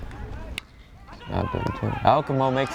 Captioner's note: bat cracks